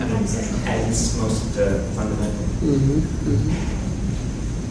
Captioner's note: audience agreeing